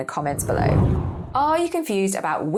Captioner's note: air whooshing